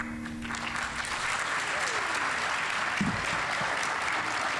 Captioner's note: audience applauding